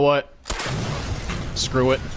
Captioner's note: explosion